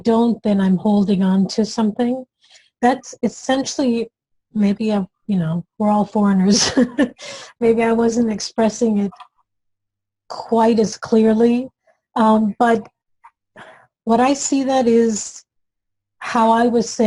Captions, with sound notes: If I don't, then I'm holding onto something. That's essentially, maybe we're all foreigners, (laughs) maybe I wasn't expressing it quite as clearly, but what I see, that is how I was saying